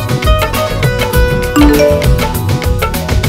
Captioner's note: Cell phone beeps